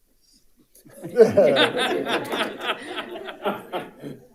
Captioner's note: audience laughing